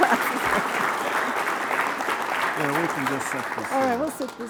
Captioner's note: applause